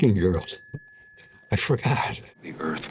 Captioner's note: bell dings